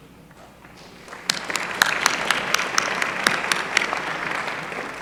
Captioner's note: applause